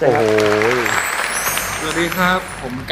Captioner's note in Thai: เสียงปรบมือ